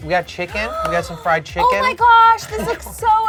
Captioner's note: gasps